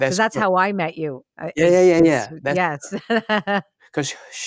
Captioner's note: laughs